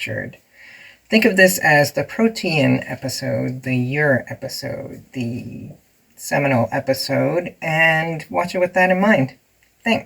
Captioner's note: sigh